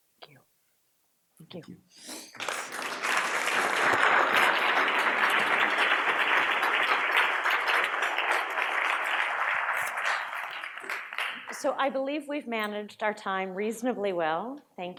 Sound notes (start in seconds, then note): 2.9 audience applauds